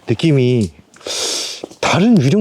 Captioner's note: tsk